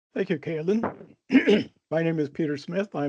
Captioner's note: clears throat